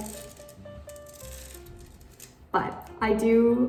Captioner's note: annoying scratching noises